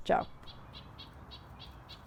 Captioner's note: bird chirps